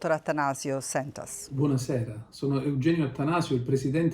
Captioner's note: speaking Italian